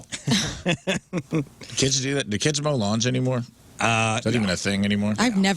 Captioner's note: laughing